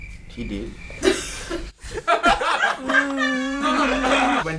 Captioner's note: all laughing